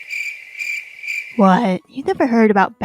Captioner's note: crickets chirping sfx